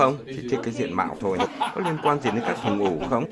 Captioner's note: laughters